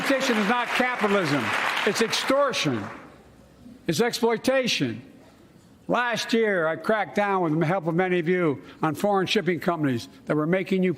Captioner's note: applause